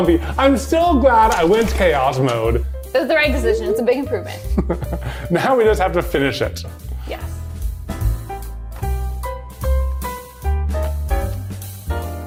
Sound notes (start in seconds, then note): 4.4 laughing; 8.4 upbeat piano music